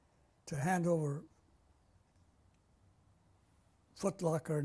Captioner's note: pauses for 3 seconds